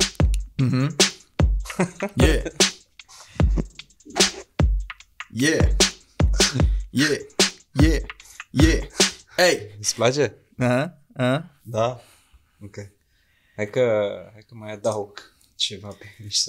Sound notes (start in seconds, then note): 6.4 caveman comprehending sounds